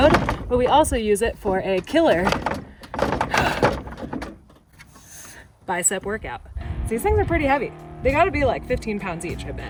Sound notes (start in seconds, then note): 2.5 Maxtrax rattles